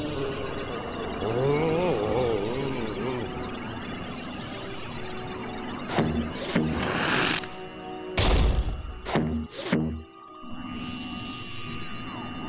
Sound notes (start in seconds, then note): 0.0 electric whirring, grumbles; 5.9 suction noise; 10.6 electric whirring